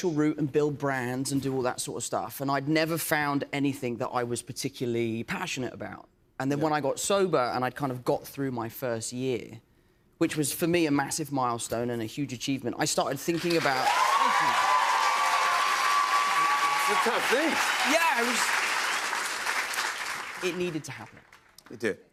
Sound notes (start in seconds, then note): 13.4 cheers and applause